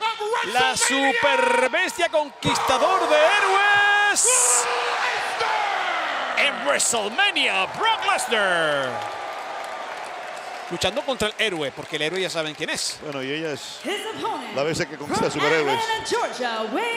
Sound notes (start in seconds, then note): 7.6 applause